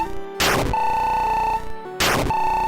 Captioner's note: game buzzes; game beeping; game buzzes